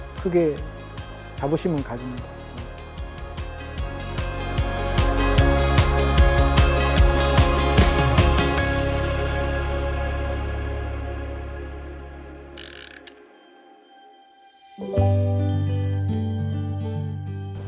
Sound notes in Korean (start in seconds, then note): 12.6 다이얼 소리; 14.8 따뜻한 음악